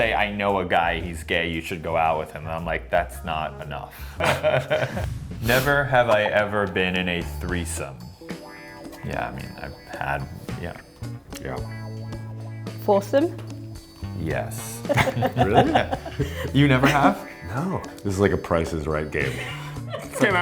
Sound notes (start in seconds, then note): 5.5 Billy chuckles; 14.6 producer chuckles